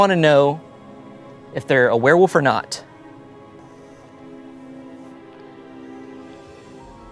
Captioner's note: snores